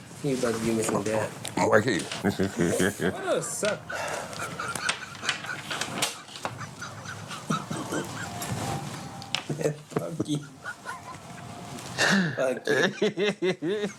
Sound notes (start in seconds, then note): 5.1 laughter